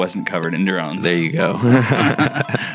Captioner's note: laughing